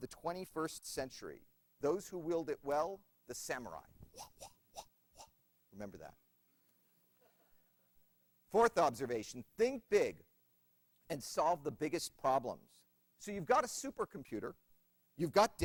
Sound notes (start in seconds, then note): 4.1 makes sound like a swinging sword; 7.2 laughter